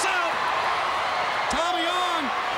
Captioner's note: crowd cheering